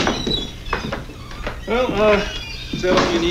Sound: door opens and closes

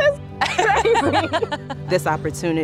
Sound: both laughing

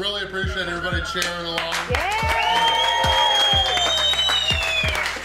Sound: crowd

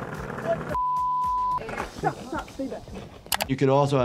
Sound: digital beeps

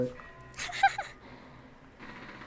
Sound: laughs

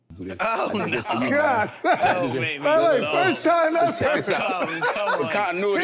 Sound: laughing amusingly

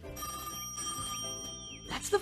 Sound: phone ringing

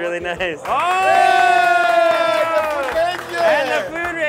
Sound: everyone cheers

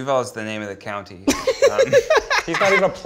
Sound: Zach laughs

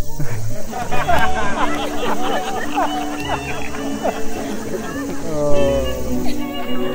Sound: laughing

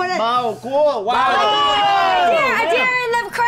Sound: group shouts and exclaims

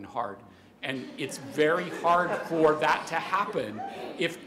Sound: laughter

